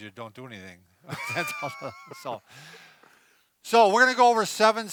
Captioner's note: laughs